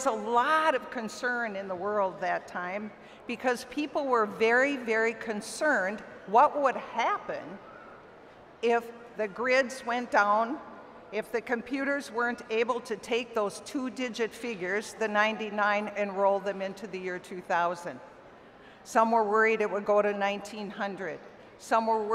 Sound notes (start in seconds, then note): none